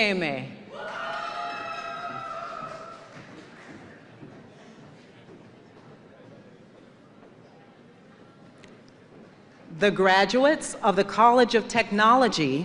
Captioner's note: cheers and applause